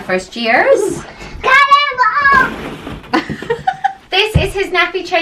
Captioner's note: child shouting